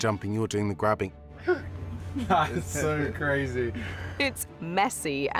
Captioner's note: chuckling